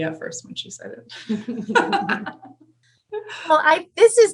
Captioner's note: laughs